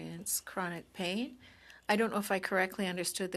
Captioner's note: speaking French